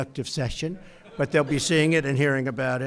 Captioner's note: laughter